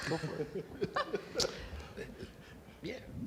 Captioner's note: laughing